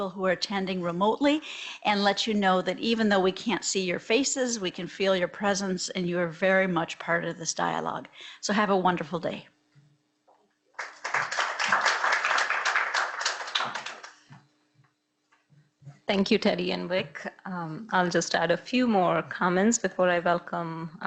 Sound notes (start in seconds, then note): 10.7 audience clapping